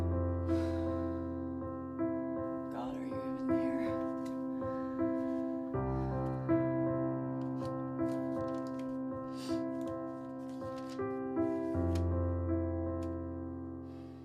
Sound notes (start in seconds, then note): 0.2 sighing; 5.8 sighing; 7.4 rustling; 9.1 sniffing